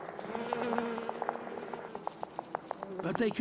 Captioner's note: beating sounds; buzzing